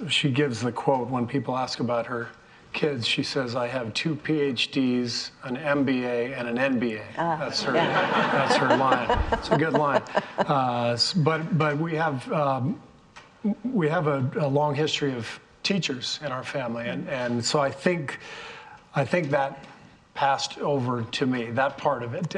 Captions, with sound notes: she gives the quote when people ask about her kids, she says, "I have two PhDs, an MBA, and an NBA." - Ah, yeah. (all laughing) That's her line. It's a good line. But we have a long history of teachers in our family. And so I think that passed over to me, that part of it did,